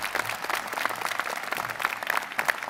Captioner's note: applause